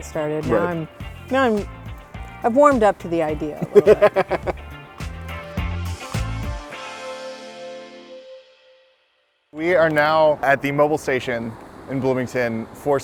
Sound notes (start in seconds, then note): 3.5 laughter